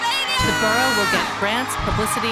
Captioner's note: audience cheering